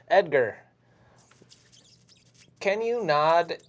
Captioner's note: sound of rat squeaks